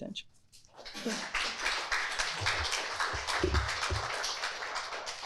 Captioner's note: audience applauding